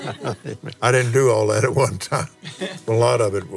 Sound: laughs

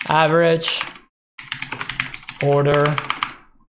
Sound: typing

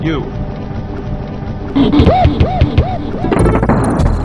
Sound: gorilla Noises

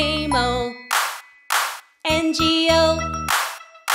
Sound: clap, clap

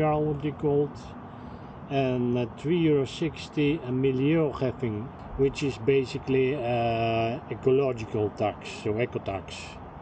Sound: speaking dutch

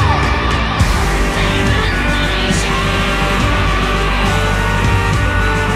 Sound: scream

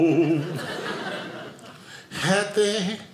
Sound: audience laughing

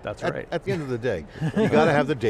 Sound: all chuckling

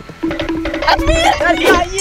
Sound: timer counting down

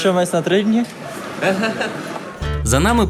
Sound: is laughing

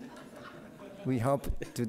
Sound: audience laughing

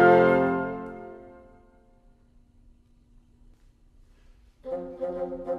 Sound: silence

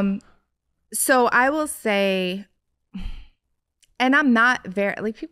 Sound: sighs

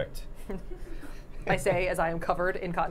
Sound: all laughing

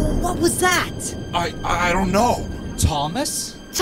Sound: stammers

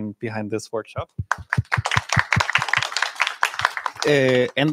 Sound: applause

